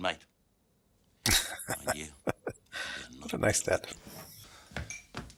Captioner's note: chuckling